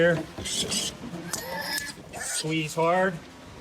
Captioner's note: pig squeals